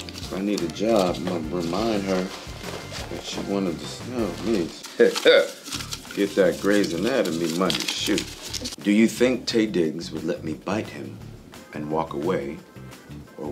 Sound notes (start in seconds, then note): 5.0 chuckling; 5.0 papers shuffling